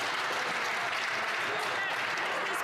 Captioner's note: some Applause